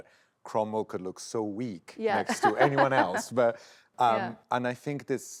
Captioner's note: laughs